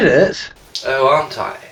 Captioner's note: flashback noise